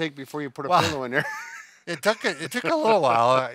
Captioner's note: laughing